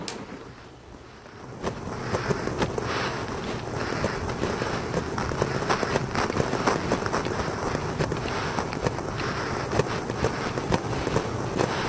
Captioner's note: distorted Static; heavy Distorted Breathing